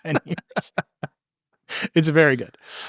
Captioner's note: both laughing